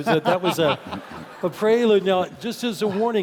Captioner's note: laugh